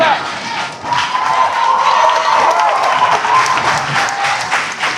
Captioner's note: spectators applauding